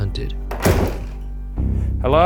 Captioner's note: door clicks